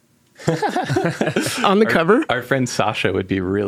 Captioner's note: participants laughing